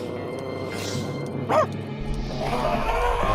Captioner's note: barks; suspenseful music